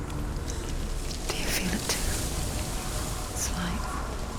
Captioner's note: wind blowing, leaves rustling